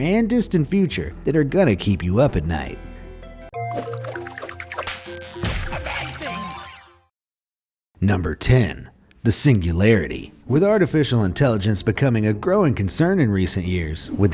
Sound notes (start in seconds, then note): 2.2 vibrant music; 3.7 bubble bursting